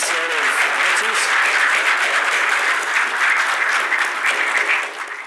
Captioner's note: applause